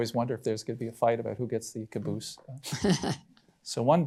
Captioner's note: chuckles